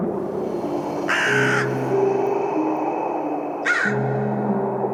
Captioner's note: crows cawing